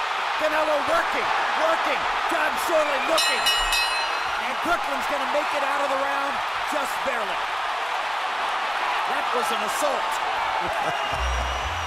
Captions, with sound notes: Canelo working, working. Jon Schorle looking. [bell rings] And Kirkland's gonna make it out of the round just barely. That was an assault. [laughs]